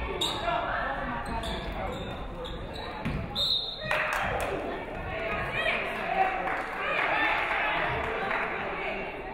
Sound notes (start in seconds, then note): 3.3 referee whistles; 6.1 audience clapping